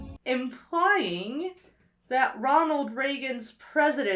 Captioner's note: none